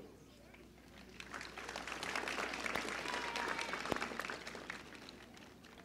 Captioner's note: applause